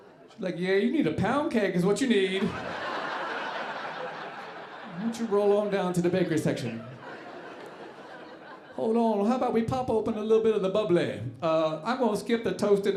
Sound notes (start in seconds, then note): 2.2 audience laughing